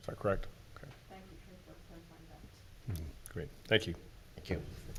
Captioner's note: woman speaking in background